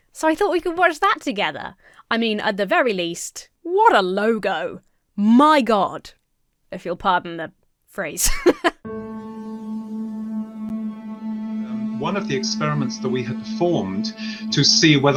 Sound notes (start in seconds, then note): 8.2 laughs; 8.8 reflective music